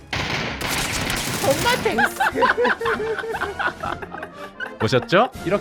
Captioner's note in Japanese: 喜びのスターカット笑い